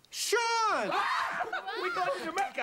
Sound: screaming

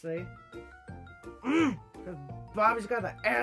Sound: grunts

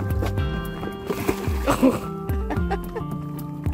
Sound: approving laughter

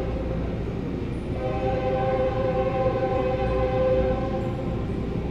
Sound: train horn

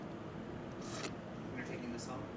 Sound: slurping

